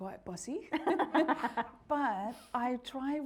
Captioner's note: laughing